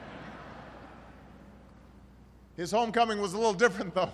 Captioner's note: laughter